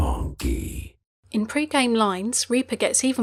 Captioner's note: voiceover